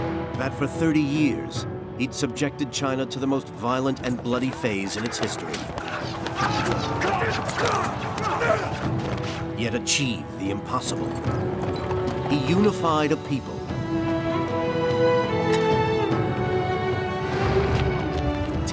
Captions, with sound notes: That for 30 years, he'd subjected China to the most violent and bloody phase of its history, (arrows whooshing) (soldiers grunting) yet achieved the impossible. He unified a people.